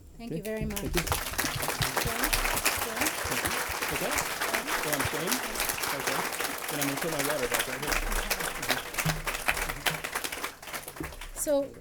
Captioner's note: applause, Background Conversations